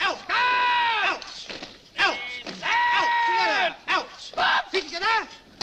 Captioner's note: shouts